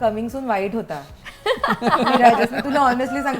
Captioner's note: laughs